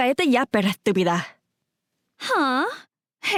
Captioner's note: in Spanish